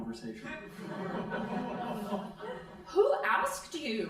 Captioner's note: crowd laughing